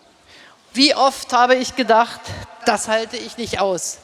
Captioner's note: speaking in German